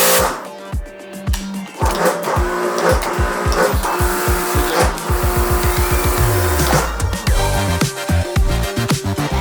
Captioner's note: pressure reduction, detergent spraying